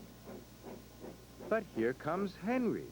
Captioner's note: engine chug